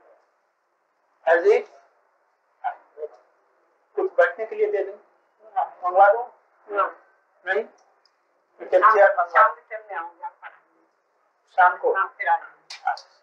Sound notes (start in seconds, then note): 2.0 Hindi